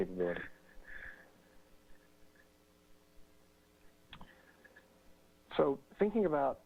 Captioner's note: pause